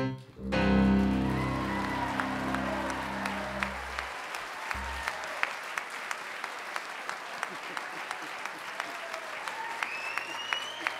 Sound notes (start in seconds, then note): 0.8 audience applause